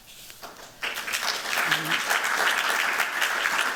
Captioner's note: applause